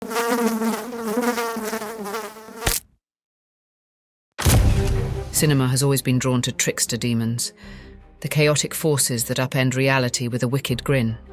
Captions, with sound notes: (fly buzzing) (fly splatting) (dramatic music) Cinema has always been drawn to trickster demons, the chaotic forces that upend reality with a wicked grin.